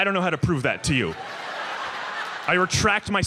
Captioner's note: audience laughs